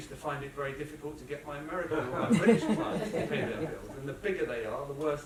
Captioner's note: laughter